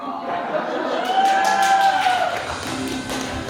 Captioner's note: audience cheers and claps